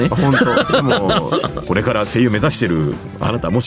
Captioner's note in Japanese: 笑い